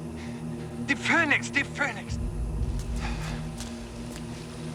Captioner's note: speaking german